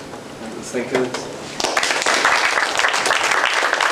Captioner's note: applause